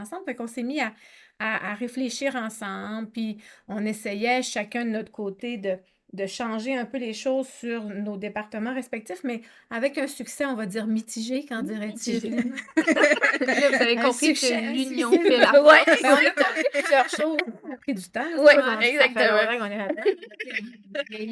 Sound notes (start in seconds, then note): 15.7 laughs